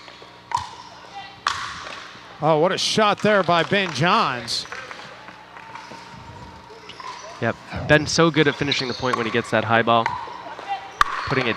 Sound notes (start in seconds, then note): 0.5 ball bouncing; 4.8 people chattering